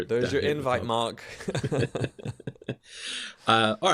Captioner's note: laughter